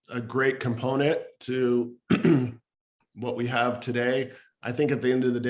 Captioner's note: clears throat